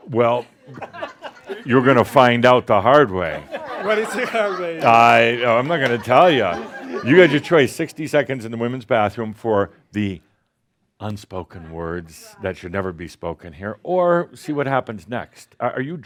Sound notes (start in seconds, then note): 3.3 more chuckles